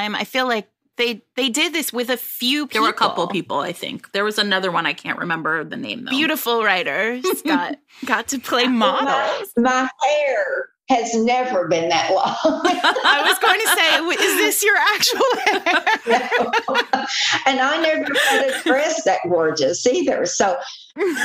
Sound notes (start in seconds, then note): 12.6 laughter